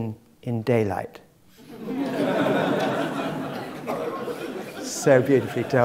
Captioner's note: laugh